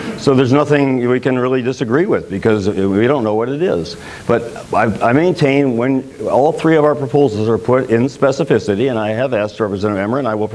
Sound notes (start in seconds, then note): none